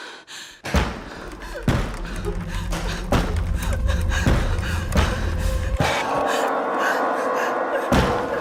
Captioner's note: loud banging on the front door, as WOMAN starts to sob